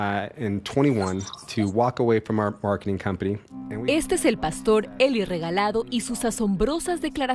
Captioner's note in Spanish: habla en ingés